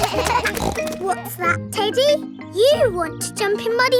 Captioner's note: kids laughing; snorts